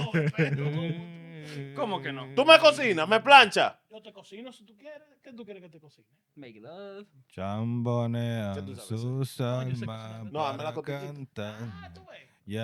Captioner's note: laughing; speaking In Foreign Language